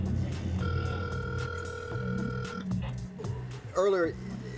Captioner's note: line ringing